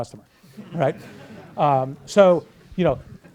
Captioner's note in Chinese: 课堂大笑